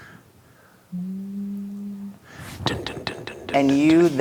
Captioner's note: imitates rock bass line; hums note